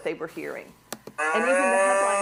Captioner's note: mooing